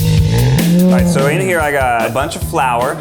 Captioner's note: bear groans